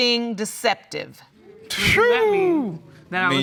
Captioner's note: exclaims